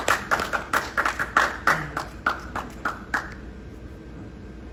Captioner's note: applause